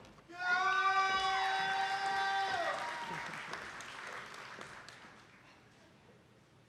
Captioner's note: attendees applauding and clapping